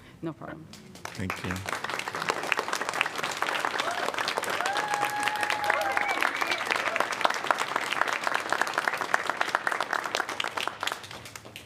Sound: applause

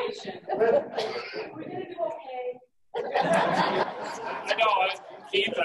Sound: laughing

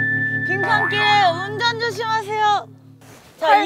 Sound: tee hee

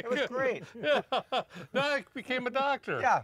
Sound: laughs

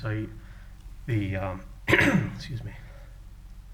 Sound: coughs

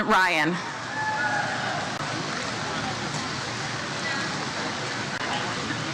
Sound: audience members cheer "Woo"

